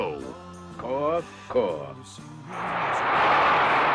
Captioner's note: raucous applause